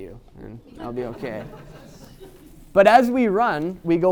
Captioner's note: audience laughing